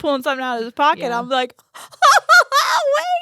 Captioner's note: laughs